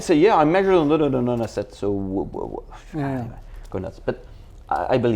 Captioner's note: sighs